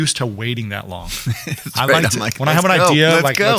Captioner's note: laughs